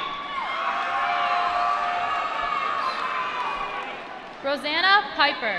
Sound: applause

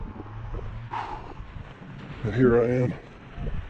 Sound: sighs

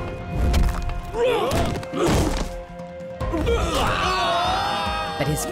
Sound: groaning

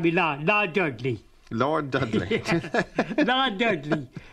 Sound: laughs

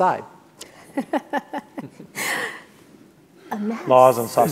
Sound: laughs

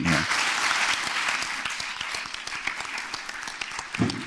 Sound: applause

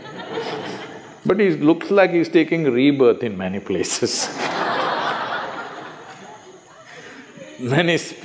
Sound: laughter

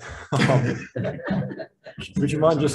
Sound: all laughing

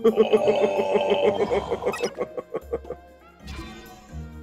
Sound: laugh

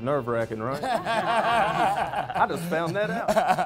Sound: laughter

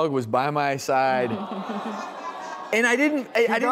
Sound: audience awws

